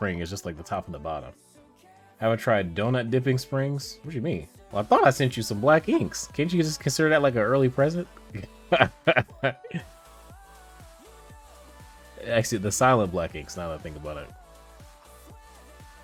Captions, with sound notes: It's just like the top and the bottom. Have I tried donut dipping springs? What do you mean? I thought I sent you some Black Inks. Can't you just consider that like an early present? (laughs) The Silent Black Inks, now that I think about it.